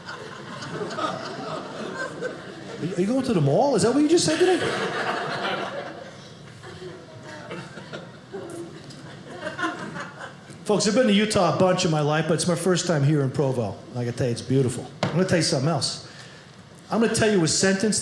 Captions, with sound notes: Are you going to the mall? Is that what you just said to me? (audience laughing) Folks, I've been to Utah a bunch in my life, but it's my first time here in Provo. Like I tell you, it's beautiful. I'm going to tell you something else. I'm going to tell you a sentence